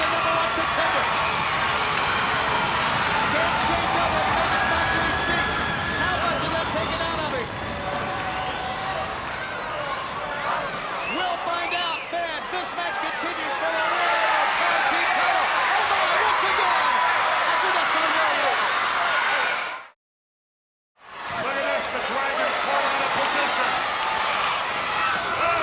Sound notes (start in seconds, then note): 2.5 crowd cheering; 9.2 crowd clamoring; 21.0 crowd cheering